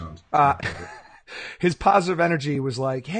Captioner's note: laughing